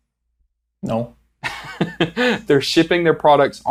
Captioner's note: laughs